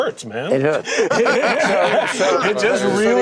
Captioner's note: laughter